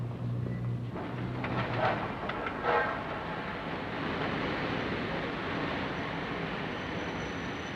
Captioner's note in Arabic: اصوات شوارع المدينة; قطار يهدر بهدوء; صرير الفرامل